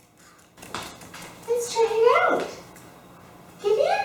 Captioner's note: feet pattering